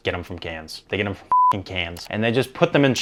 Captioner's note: beep